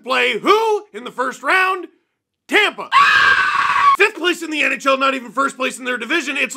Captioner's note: screams